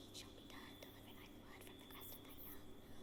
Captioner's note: whispers